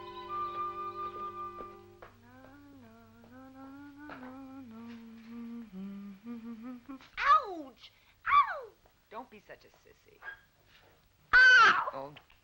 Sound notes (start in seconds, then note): 2.2 sister humming